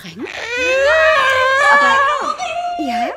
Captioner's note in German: Aufgeregte Rufe